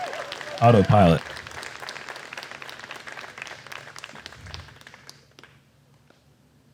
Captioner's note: crowd cheering